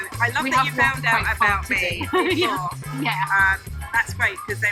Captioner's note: laughs